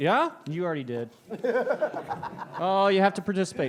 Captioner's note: laughs